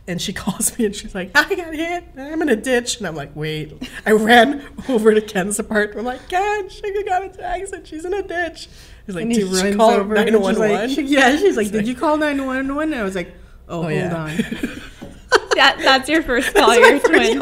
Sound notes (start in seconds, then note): 14.2 laughing